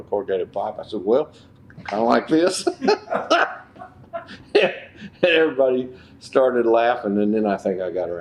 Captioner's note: gestures and laughs